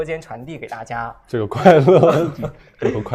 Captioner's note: laughs